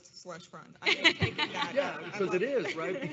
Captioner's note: laughs